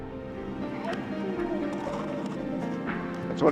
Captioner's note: chatter